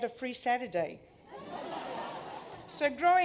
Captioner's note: laughter